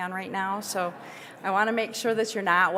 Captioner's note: audience laughing